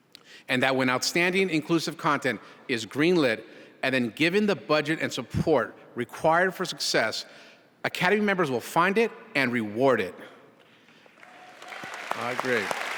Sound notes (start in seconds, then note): 11.1 applause